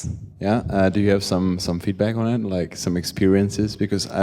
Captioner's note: voiceover